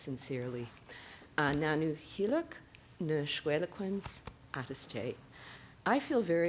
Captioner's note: speaking SENĆOŦEN